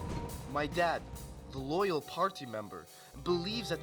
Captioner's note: explosion